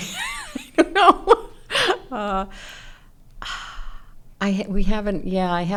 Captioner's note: laughs